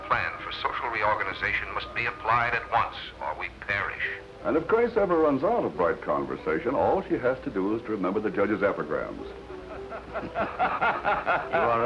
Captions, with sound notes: must be applied at once or we'd perish. And if Grace ever runs out of bright conversation, all she has to do is remember the Judge's epigrams. [laughter] You are a rascal, Kosterich.